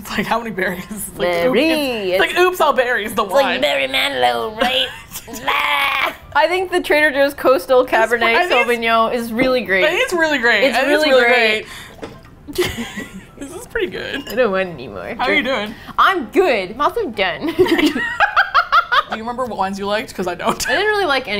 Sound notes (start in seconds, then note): 0.8 emphasizing second syllable; 4.6 laughs; 12.5 both giggle; 14.3 playfully; 18.0 both laugh